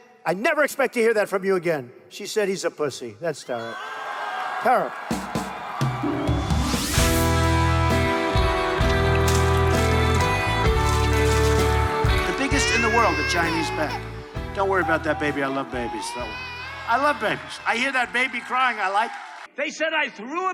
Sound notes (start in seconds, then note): 3.6 cheering; 7.2 rock music; 12.2 baby crying